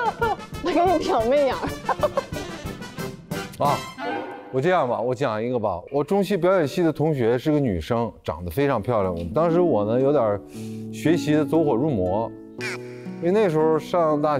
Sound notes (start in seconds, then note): 1.6 laughing